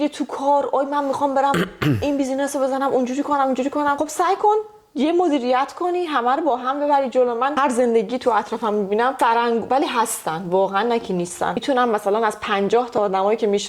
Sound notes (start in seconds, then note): 1.5 coughs